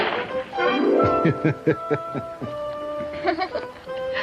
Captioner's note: chuckles; chuckling